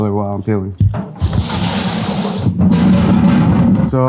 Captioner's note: water splashing; potatoes clattering